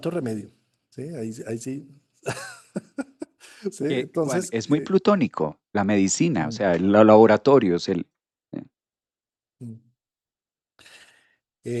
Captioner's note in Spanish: risas